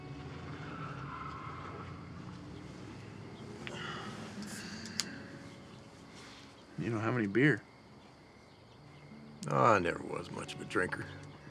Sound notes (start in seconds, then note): 0.0 car tires squealing; 3.6 sighs